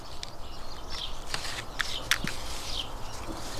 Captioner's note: birdsong